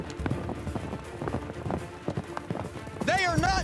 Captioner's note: hoofbeats